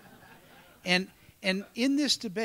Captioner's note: laughter